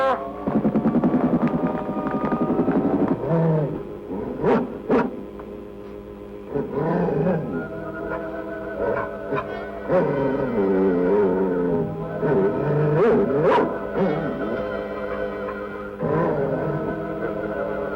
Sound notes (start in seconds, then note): 5.2 growling